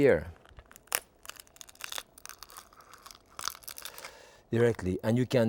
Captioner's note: shell cracks